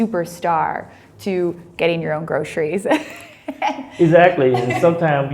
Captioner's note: laugh